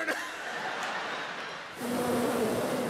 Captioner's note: crowd laughing; blowing air into microphone